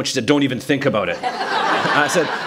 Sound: laughter

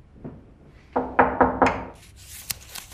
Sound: door knocking

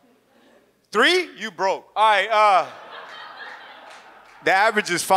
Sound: audience laughs

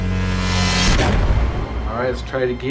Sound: buzzes; bangs

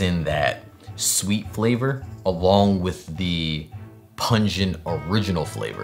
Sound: none

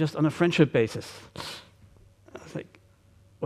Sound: wincing gasp

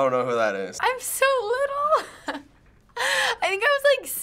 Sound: chuckles

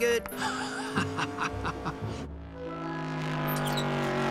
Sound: Lightning laughing

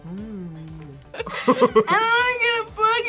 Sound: laughs

